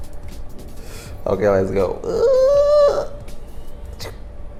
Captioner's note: dying dolphin sound